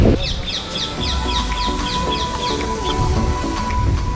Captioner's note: birds singing